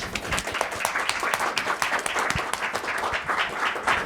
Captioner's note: audience applauds